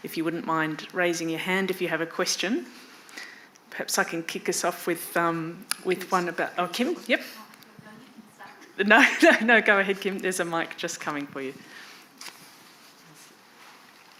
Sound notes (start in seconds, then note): 7.9 faintly speaking